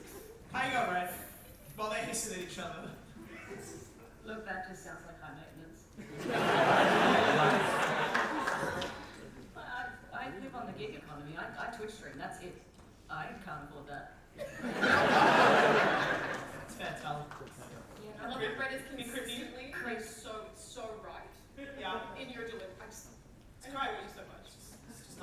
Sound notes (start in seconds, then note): 6.0 audience laugh; 14.5 audience laughter